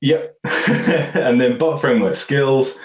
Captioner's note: laughter